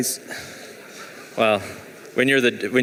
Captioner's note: laughing